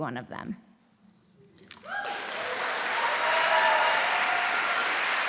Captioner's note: applause